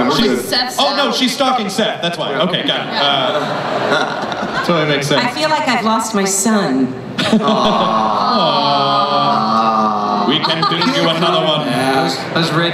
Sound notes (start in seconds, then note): 3.4 laughter